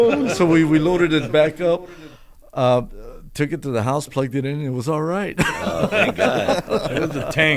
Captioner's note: laughter